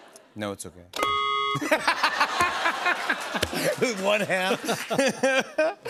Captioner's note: laughs